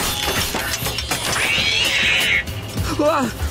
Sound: screeching

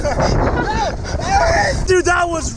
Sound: shouting

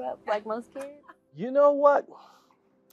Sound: laugh

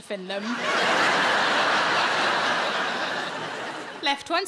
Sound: audience laughing

